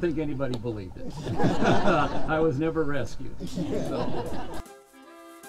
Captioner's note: laughter